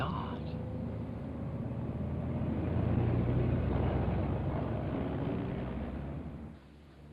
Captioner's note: car rumbling